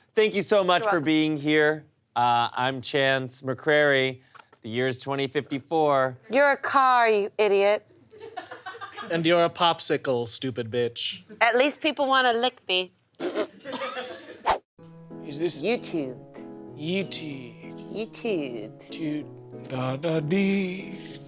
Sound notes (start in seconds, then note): 13.3 laughter